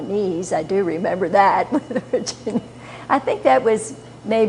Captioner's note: laughter